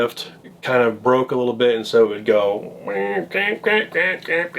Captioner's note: imitates creaking